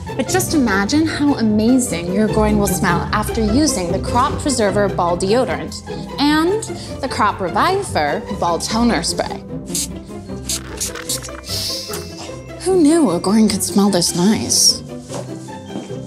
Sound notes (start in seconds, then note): 9.7 sniffing; 10.4 bottle spraying